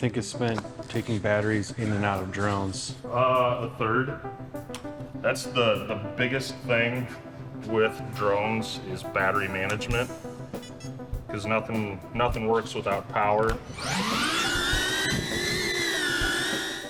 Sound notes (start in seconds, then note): 10.6 drone beeps; 13.5 drone whirring